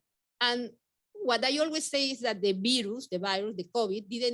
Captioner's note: speaking Spanish